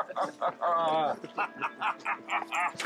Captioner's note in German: Lachen